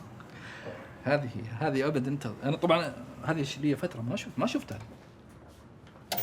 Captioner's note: speaking in Arabic